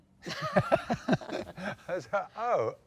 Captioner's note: both laugh